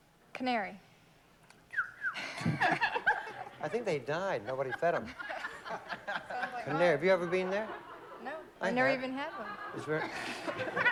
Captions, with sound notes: CANARY. [WHISTLING] HA HA HA! I THINK THEY DIED. NOBODY FED THEM. CANARY. HAVE YOU EVER BEEN THERE? NO. I'VE NEVER EVEN HAD ONE.